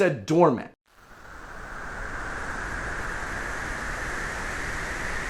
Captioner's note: wind whooshing